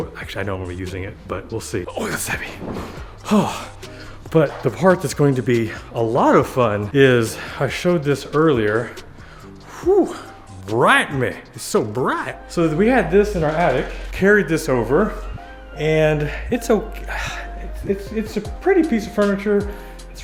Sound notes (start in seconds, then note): 1.9 sighs